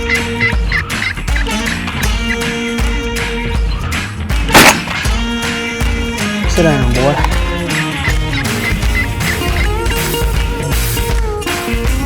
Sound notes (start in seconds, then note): 4.5 gun shooting